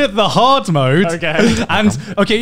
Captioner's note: laughing